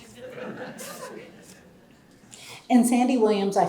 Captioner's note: audience laughs